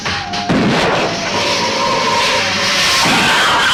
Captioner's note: gun firing